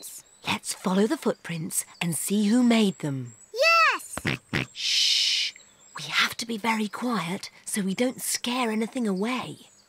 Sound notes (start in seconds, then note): 4.2 snorts